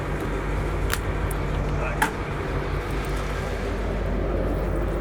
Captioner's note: crack